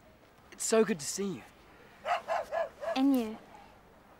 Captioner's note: none